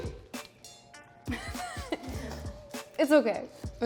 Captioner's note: laughs